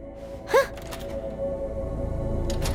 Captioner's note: Kaufmo growls; exclaims softly